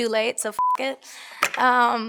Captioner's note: beeps